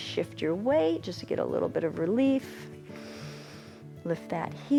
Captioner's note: inhales